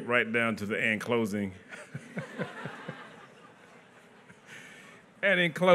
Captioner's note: laughter